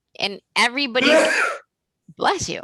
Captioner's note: sneezes